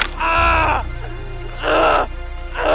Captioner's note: man grunting